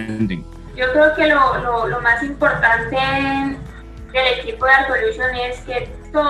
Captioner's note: speaking in foreign language